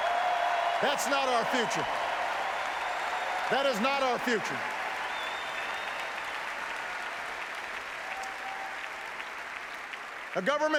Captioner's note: applause